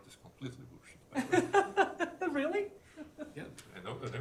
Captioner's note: laughs